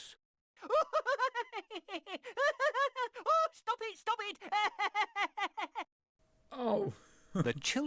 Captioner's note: teacher laughing whilst being tickled